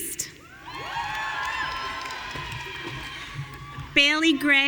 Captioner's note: audience cheering